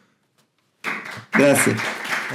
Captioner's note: applause